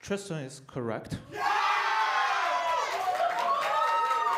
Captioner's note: applause